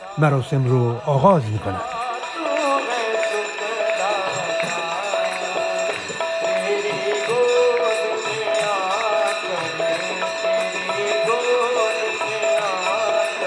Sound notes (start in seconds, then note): 8.0 applause